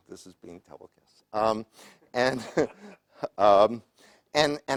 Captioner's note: laugh